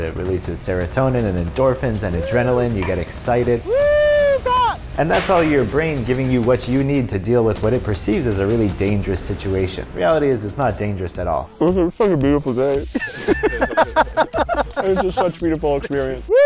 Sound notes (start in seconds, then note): 12.8 laughing